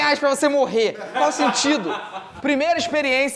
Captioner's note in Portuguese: risadas